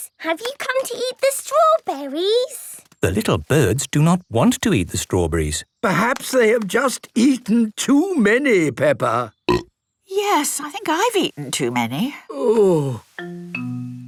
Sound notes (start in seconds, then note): 9.3 burp